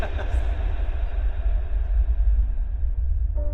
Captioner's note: echoes fade out